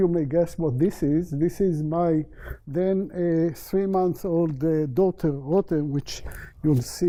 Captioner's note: non-english